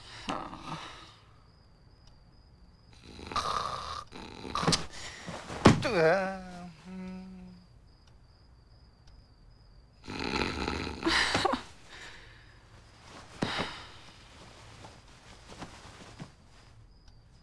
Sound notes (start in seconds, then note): 0.1 sigh; 5.3 groans; 10.0 snoring continues